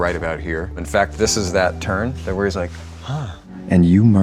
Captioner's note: gasps